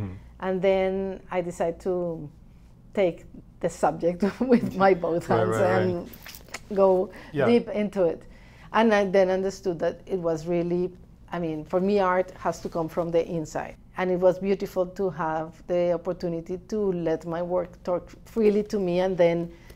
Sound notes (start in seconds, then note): 5.1 laughs